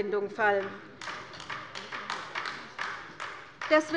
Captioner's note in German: Beifall bei der LINKEN